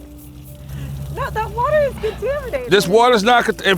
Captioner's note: laughing